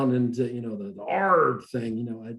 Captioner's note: growls